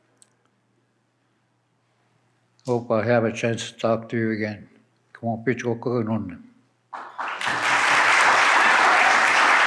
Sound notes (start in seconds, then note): 0.0 speaks in Ojibwe; 5.0 speaks in Ojibwe; 6.9 applause